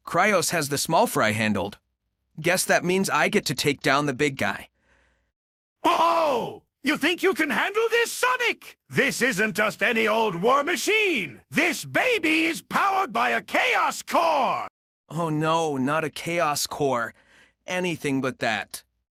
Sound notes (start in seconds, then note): 6.3 mocking